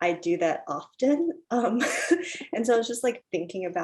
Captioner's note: chuckles